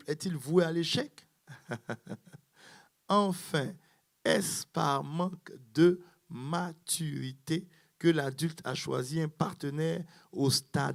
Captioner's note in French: rires